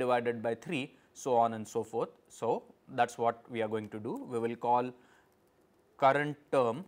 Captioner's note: click